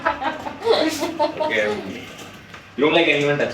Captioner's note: laughs